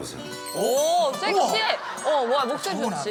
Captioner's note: A sexy low tone